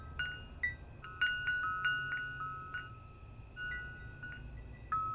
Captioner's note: bell chiming continues